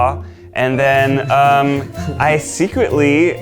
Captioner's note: light laughter